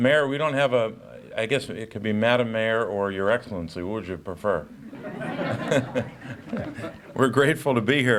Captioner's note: chuckles